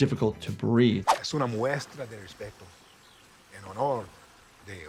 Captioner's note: Gus speaks in Spanish